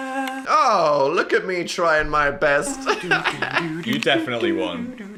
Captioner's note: laughs